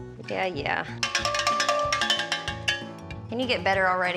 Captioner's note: bell ringing